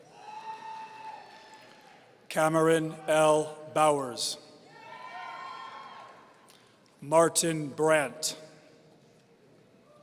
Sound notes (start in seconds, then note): 0.0 audience cheering; 4.7 audience cheering